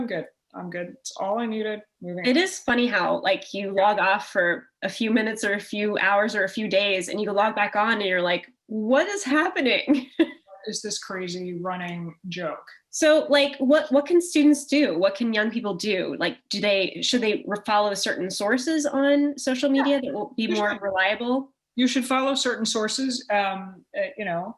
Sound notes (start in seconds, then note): 9.8 chuckle